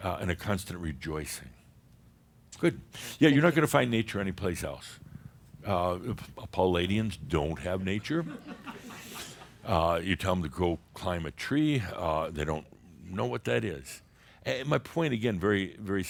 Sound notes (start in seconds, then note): 8.6 a few giggles